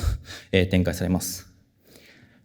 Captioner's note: chuckles